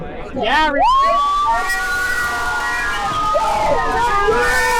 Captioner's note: crowd cheering